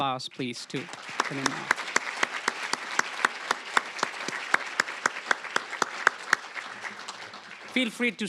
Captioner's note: applause